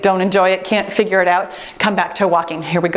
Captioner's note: timer beeps